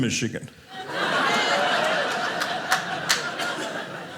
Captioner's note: audience laughing